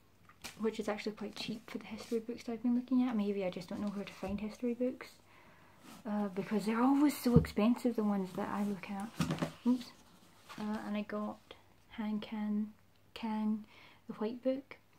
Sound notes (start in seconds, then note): 9.1 drops book